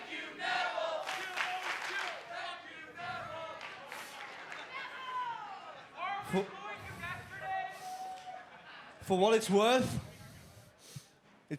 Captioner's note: fans chanting